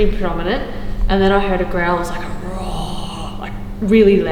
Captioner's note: mimicking sound